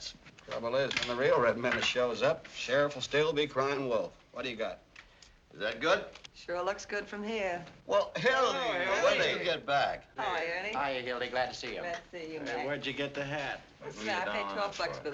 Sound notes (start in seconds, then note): none